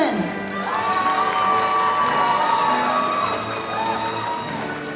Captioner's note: audience cheering